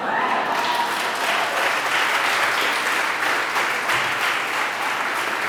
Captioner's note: applause